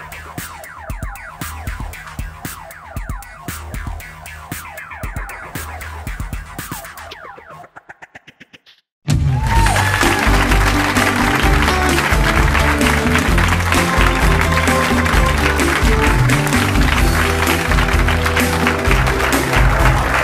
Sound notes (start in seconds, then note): 9.2 upbeat music; 11.7 audience applauds; 14.5 audience cheers; 16.5 upbeat music continues